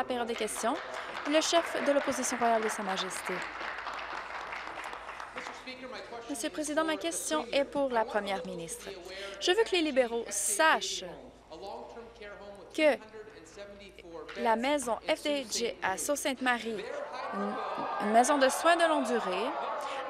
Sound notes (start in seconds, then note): 6.2 applause